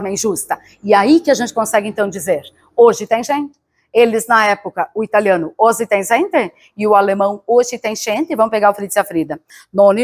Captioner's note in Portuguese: com sotaque italiano